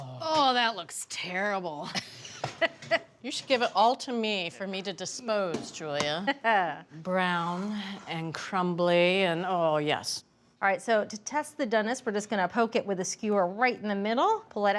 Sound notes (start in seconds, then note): 1.8 laughs; 6.6 chuckles